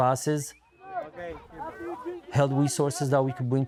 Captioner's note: kids and coach chattering